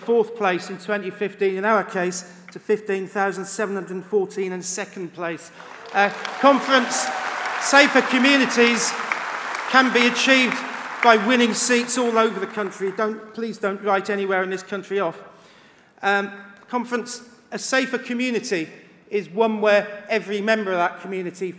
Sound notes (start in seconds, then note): 9.8 applause